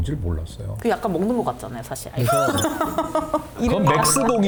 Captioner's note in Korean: 웃음